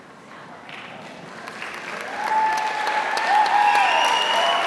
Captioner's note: applause